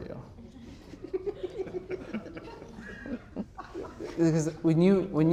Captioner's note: audience laughs